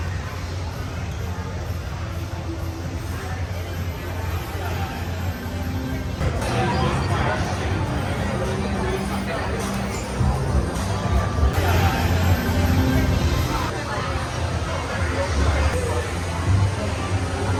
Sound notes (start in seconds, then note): 0.0 speaks faintly; 0.3 people chattering; 10.3 people chattering; 10.3 upbeat music